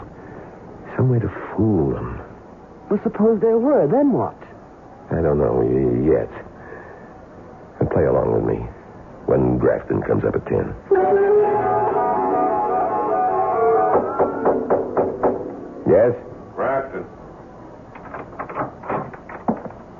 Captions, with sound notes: some way to fool them. Well, suppose there were. Then what? I don't know yet. And play along with me when Grafton comes up at 10. [BANGING] [KNOCKING] Yes? Grafton.